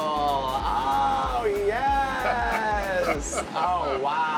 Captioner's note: laughter